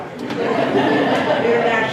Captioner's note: laughter